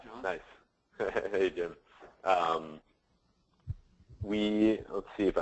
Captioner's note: chuckles